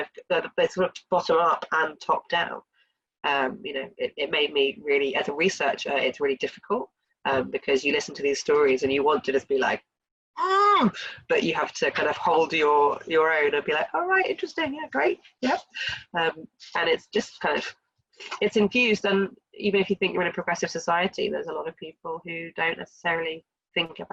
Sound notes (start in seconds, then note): 10.4 groans